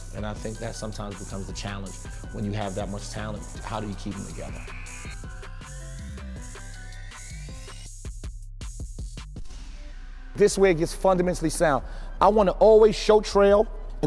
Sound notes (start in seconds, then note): 3.8 timer buzzes; 4.5 slow music continues